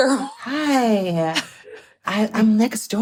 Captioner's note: chuckles